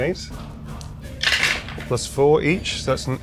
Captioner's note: dice rattling